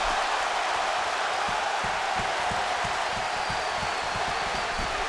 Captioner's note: audience cheering